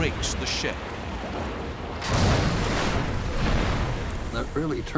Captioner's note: explosion